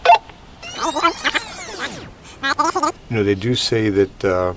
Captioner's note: radio beeping; tape rewinding; chipmunk voice